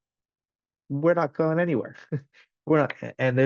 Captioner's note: chuckles